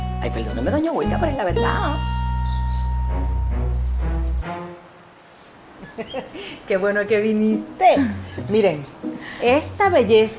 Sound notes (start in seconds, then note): 5.8 Yuya laughs